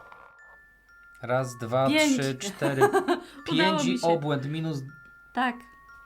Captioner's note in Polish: śmiech